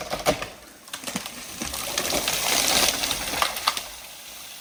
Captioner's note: tree thundering